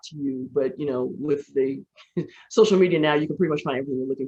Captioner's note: laughs